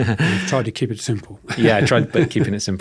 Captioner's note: chuckles